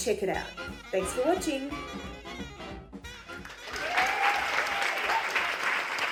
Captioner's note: audience clapping